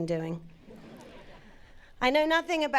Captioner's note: audience laughing